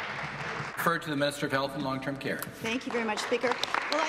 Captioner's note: applause